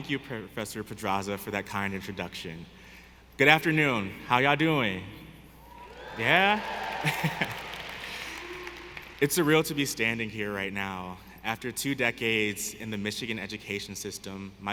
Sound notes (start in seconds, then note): 5.8 audience cheering; 5.8 audience applauding; 7.0 laughs